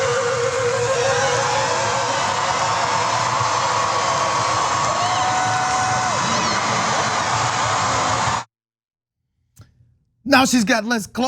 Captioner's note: applause